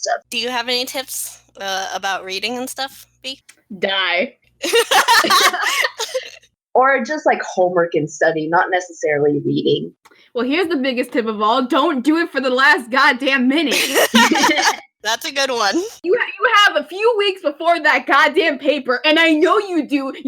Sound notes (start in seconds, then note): 4.6 laughter; 4.6 laugh; 13.7 laughing